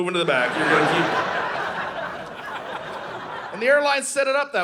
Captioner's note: audience laughing